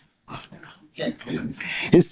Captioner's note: laughter